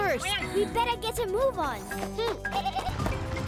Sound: bleating

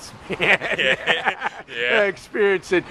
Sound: laughing

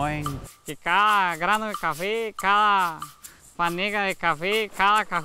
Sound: speaking Spanish

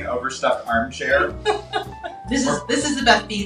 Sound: laughing

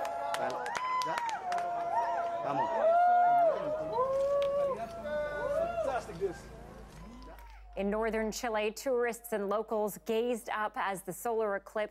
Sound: cheering

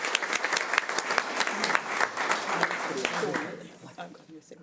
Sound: audience applauding

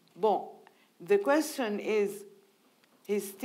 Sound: speaking in foreign language

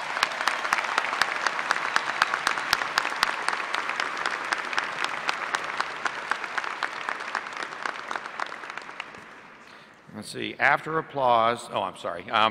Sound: applause

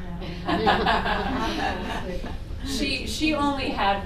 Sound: laughter

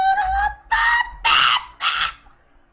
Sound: humming intensifies

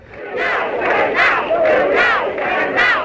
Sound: crowd

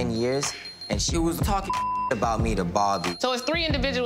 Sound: beep

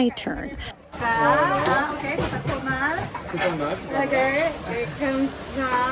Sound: speaking foreign language

